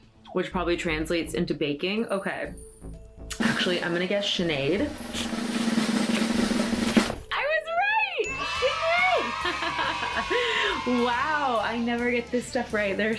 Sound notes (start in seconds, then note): 3.1 drum roll; 8.2 children cheering sound